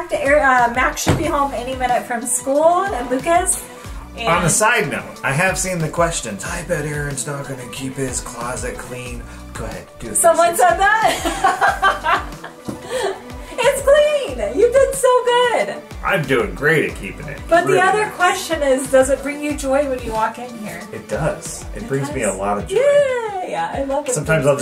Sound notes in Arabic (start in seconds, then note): 10.9 يضحك